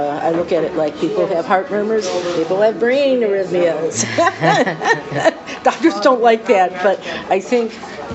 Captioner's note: laughs